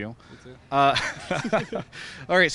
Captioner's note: laughter